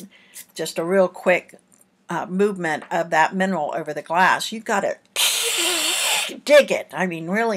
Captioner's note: screech sound